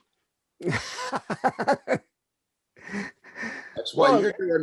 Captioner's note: laughing